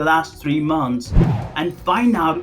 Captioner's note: air whooshing